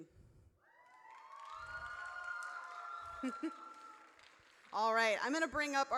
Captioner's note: audience cheers